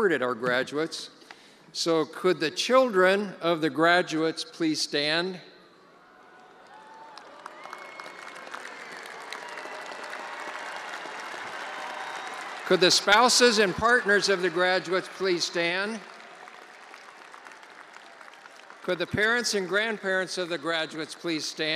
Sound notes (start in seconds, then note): 10.0 attendees applauding